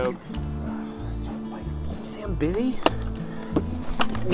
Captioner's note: sighs